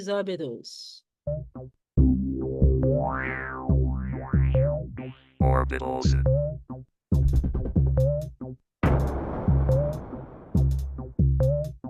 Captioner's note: robotic voice says 'orbitals'; whimsical instrumental music